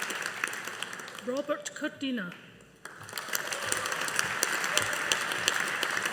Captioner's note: audience applauding